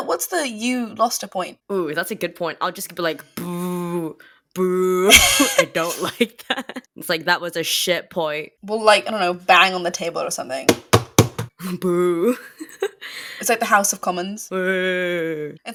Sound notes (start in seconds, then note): 3.9 pffft, booooo